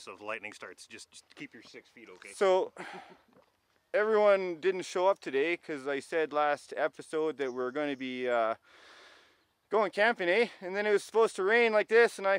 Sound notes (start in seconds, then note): 2.7 chuckles